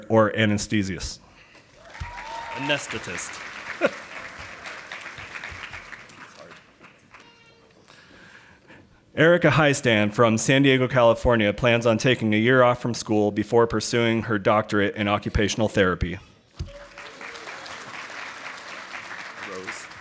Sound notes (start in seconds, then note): 1.7 audience applauding; 16.7 audience applauding